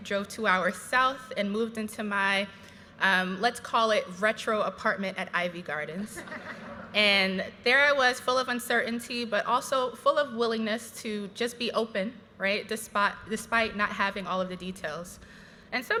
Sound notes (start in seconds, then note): 6.1 graduates laughing